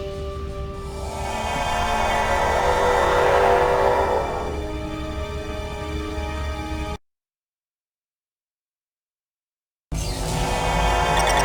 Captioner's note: sirens